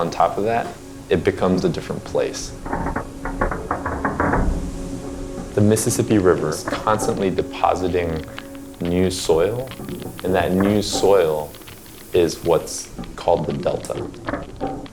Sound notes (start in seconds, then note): 3.3 creaking